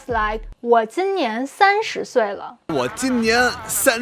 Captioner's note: speaking in Mandarin